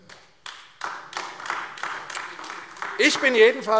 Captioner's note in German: Beifall AfD